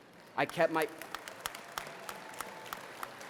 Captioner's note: applause